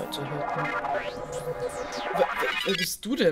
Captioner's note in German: Enderman Geburt Geräusche